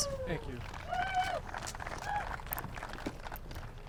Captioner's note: applause